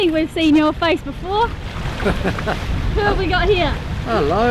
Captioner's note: laughing